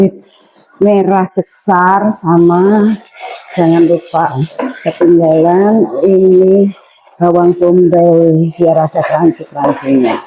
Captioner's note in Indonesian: tertawa